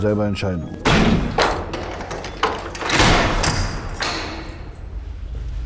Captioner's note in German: Tür fällt ins Schloss